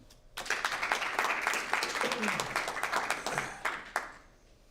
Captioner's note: applause